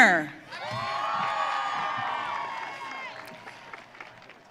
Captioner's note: audience cheering